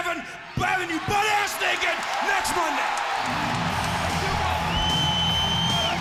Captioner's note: crowd cheering